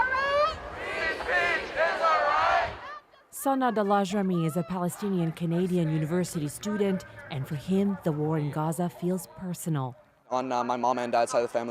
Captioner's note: chanting